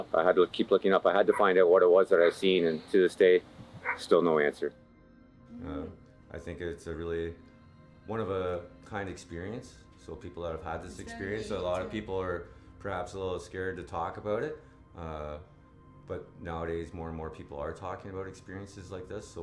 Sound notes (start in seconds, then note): 1.2 dog Barking